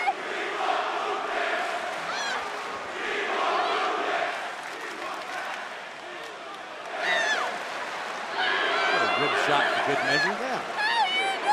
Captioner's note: fans chanting